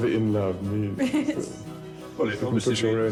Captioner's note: she giggles